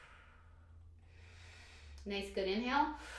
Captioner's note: exhales breath; inhales deeply